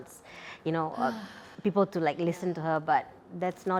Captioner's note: sighs